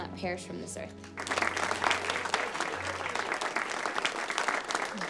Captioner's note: class applauds